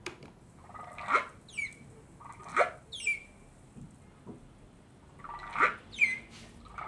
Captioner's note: whale chirping